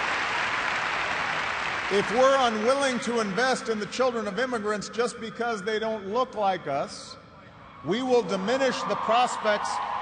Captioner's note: cheers and applause